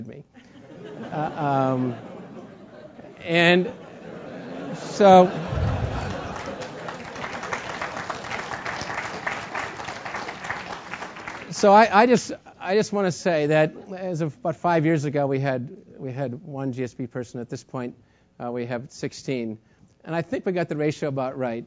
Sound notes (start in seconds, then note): 0.7 laugh; 5.5 applause